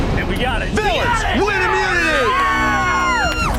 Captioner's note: villains cheering